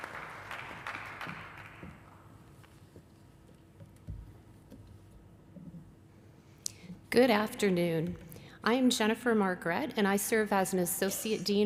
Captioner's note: applause